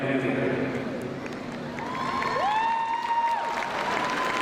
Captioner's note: crowd cheering